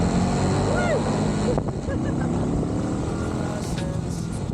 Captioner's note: laughing